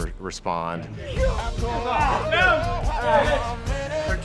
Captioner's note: cadres shouting; grunting